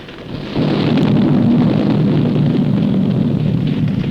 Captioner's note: explosion rumbling